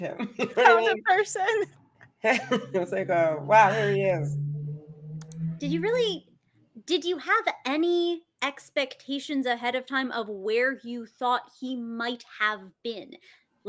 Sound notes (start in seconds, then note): 0.1 chuckles; 0.1 laughs; 2.3 laughs